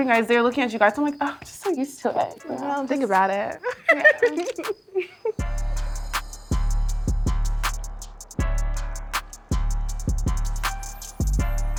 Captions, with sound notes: They’re looking at you guys. I’m like, I’m just so used to it. Don’t think about it. [Laughing] [Laughing]